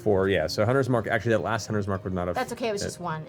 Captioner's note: none